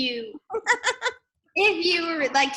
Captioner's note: laughs